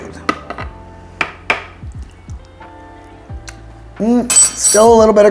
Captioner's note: soft jazz music continues; spoon tapping